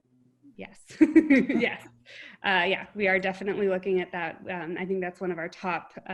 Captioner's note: laugh